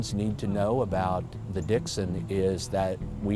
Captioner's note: voiceover